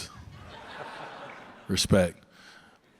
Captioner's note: audience laughs